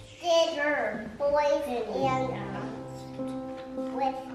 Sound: children reading aloud

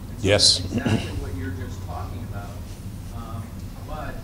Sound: voiceover

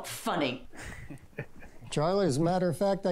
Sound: Charlie chuckles

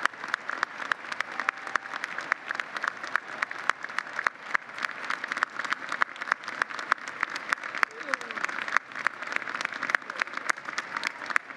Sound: applause

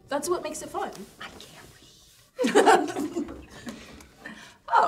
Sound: laughing

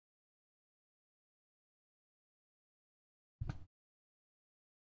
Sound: silence

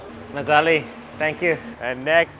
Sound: in foreign language

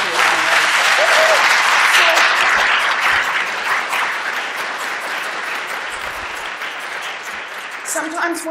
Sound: applause

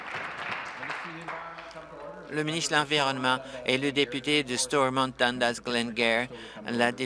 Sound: applause

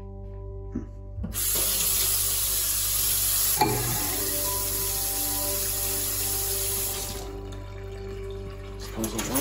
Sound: water running

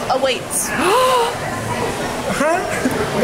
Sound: gasps

